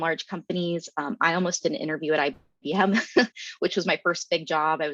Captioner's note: chuckles